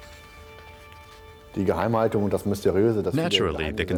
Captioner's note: speaking in German